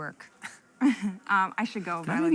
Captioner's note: laughs